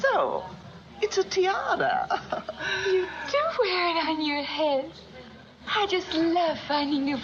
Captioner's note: laughs